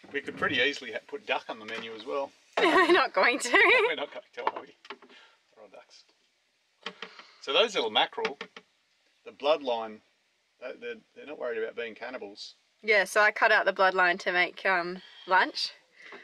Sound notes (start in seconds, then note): 2.6 laughs